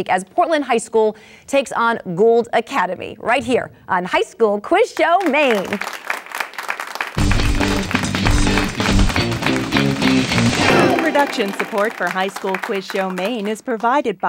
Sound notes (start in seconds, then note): 5.9 applause; 7.2 exciting music